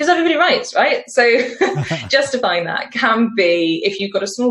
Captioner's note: laughs